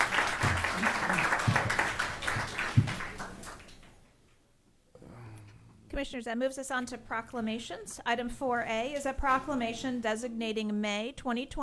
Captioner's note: applause